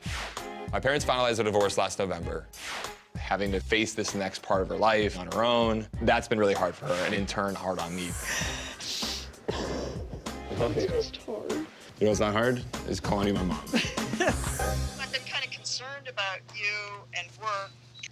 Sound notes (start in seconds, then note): 9.4 crying